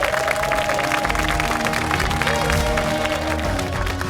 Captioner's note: cheers and applause